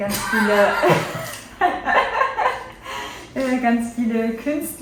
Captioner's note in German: Lachen